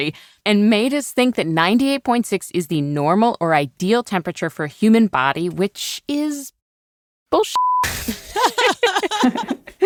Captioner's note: laughs